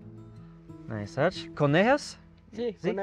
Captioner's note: speaking foreign language